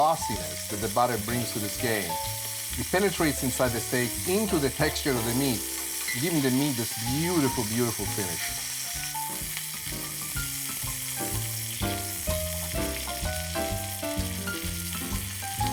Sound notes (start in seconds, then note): 8.9 loud yummy sizzling